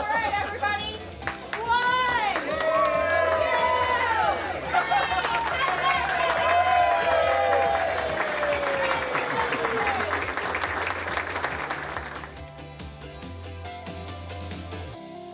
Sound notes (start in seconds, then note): 6.6 audience applauds; 12.6 bright music